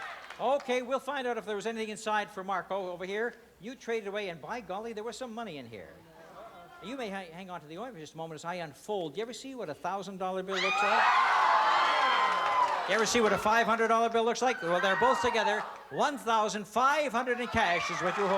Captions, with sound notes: OK, we'll find out if there was anything inside for Mark. Oh, over here? You traded away, and by golly, there was some money in here. You may hang on to the ointment just a moment as I unfold. Did you ever see what a $1,000 bill looks like? [cheering] You ever see what a $500 bill looks like? Well, they're both together. $1,500 in cash is what you were holding onto.